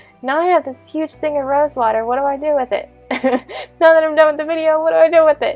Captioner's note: laughs